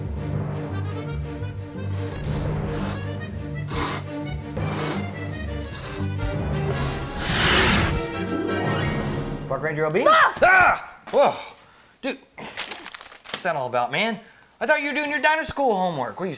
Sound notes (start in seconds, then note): 4.5 dinosaur snarling; 10.0 yells; 10.1 screams